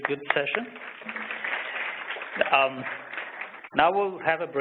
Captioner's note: applause